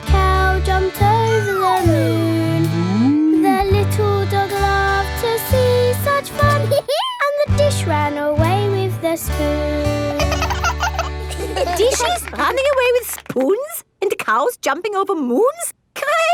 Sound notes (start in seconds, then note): 6.7 dog laughs; 10.0 both laugh